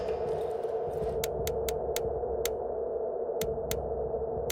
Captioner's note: lock ticking